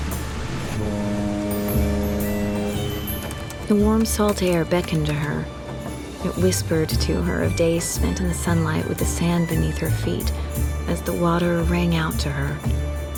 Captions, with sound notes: [BOAT HORN] [TYPING] THE WARM SALT AIR BECKONED TO HER. IT WHISPERED TO HER OF DAYS SPENT IN THE SUNLIGHT WITH THE SAND BENEATH HER FEET AS THE WATER RANG OUT TO HER.